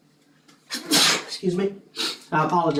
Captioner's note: cough